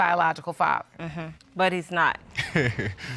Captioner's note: chuckles